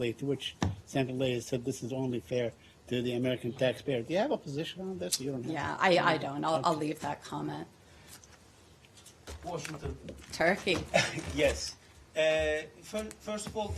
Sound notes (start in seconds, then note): 10.9 laughter